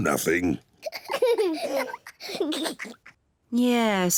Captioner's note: both laugh